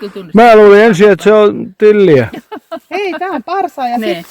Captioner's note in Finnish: naurua